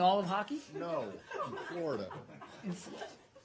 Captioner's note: laughter